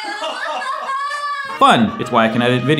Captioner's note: laughter